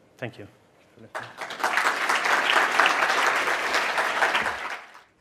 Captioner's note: audience applauds